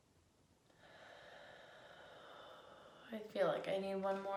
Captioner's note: deep exhaling